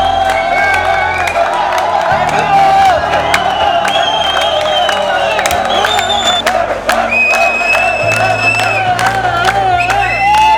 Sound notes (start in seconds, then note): 6.4 people clap; 6.4 people whistle